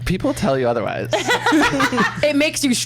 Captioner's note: laughs